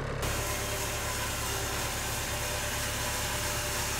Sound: saw revving

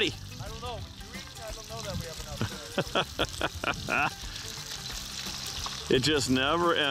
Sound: laughing

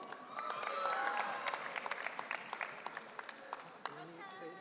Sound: audience cheering

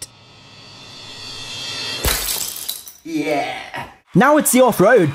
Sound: glass smashes

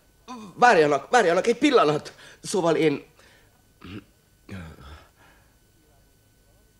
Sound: clears throat

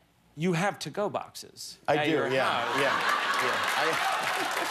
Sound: laughter

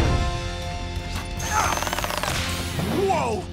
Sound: grunting

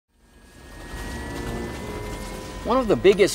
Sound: engine noise

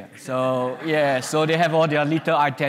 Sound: audience laughs

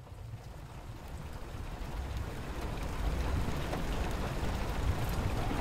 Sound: rain pattering

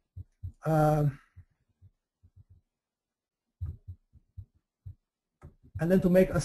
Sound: pause

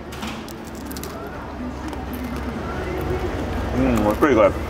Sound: food crunching

